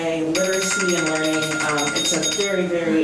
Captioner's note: bell ringing